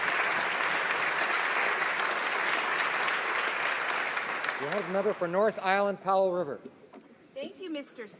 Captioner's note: applause